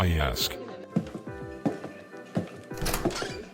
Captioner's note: footsteps; door opening